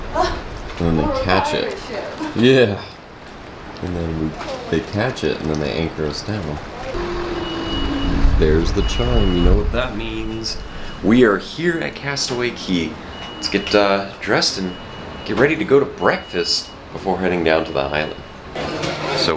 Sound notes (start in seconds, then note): 0.5 gasps; 3.0 chuckling; 6.9 soothing bell